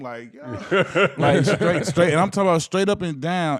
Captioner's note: laughing